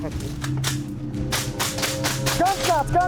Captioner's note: gun firing